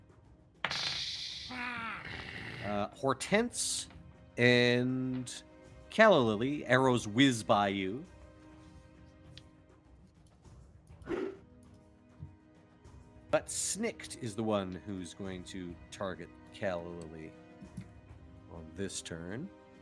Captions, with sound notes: (goblin grumbling sound effect) Hortense and Calla Lilly, arrows whiz by you. (dog barks) But Snikt is the one who's going to target Calla Lilly this turn.